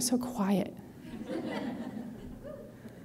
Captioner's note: polite laughter